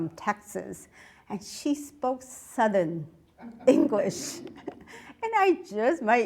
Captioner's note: audience laughs